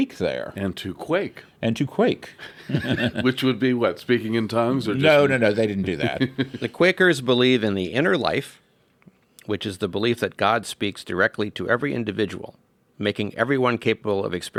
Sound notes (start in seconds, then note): 2.4 laugh; 5.6 laughs